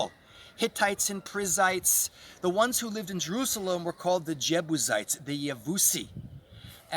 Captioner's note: in Hebrew